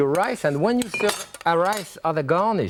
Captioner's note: bottle clinking